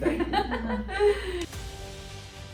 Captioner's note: laughter; bright music